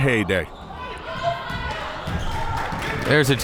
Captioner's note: crowd members shouting